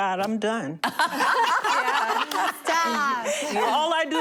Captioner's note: laughter